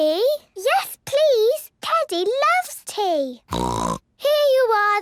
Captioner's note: snort